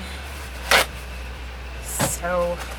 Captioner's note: rips paper towel